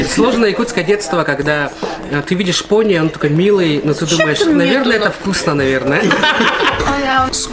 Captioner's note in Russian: смех